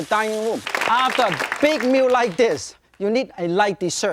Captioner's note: audience applause